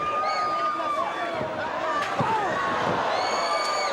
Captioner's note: audience cheers